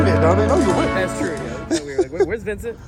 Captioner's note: chuckling